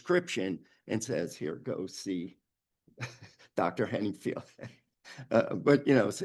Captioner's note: chuckles